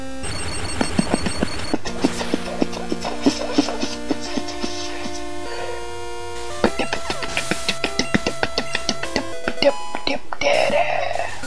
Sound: sick beatboxing

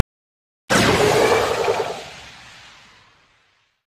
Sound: portal Noise

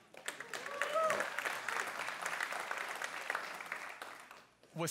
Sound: audience claps

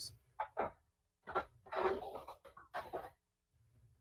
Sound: ~audio distortion~

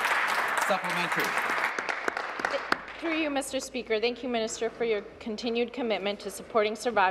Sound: applause

